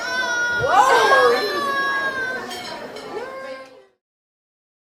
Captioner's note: baby squealing